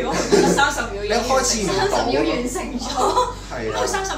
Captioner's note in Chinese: 七嘴八舌中